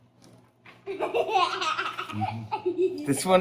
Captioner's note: laughs